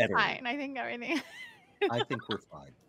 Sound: chuckling

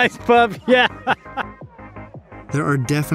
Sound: laughs

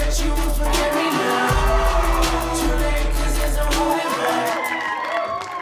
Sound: audience cheers; bursts of cheers and applause

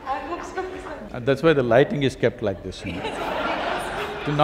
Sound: laughter

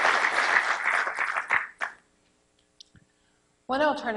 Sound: applause

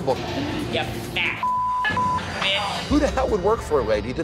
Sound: beep

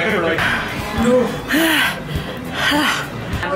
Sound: breathing heavily

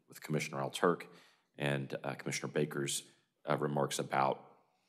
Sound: none

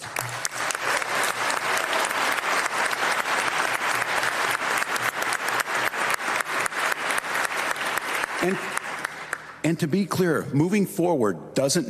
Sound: applause

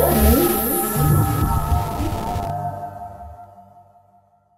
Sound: static crackling

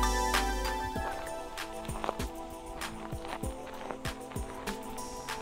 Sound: footsteps crunching

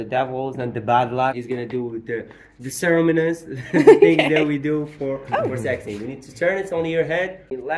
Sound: laughing, okay

